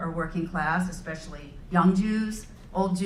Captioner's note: none